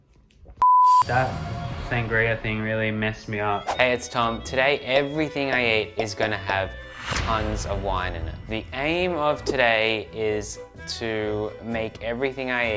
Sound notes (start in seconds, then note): 0.8 video beeping